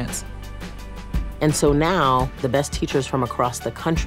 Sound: voiceover

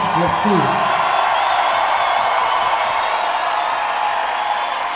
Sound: crowd cheering

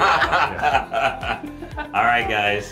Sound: laughing

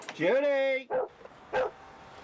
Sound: dog barks

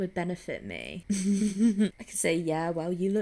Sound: laughs

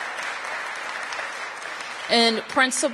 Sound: applause

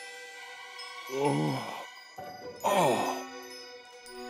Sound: groans

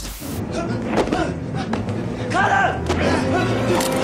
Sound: air whooshes; people groan; dramatic instrumental music

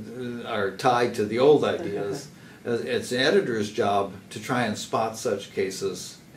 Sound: laugh

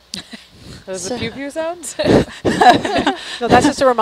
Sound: woman 2 chuckling; laughs

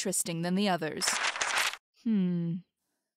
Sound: papers rustle

